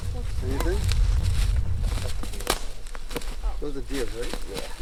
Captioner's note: branches snapping